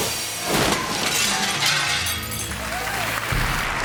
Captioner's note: glass shatters; audience clapping